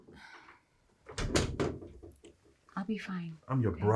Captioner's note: Erica sighing